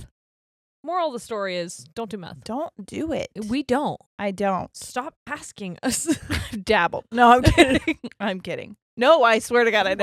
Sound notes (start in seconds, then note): 5.7 laughing; 7.4 both laughing